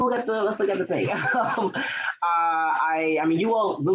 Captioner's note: laughing